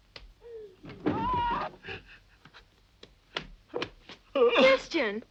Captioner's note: Christian crying; Christian screams